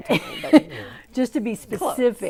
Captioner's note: laughing